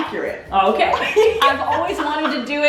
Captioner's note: laughing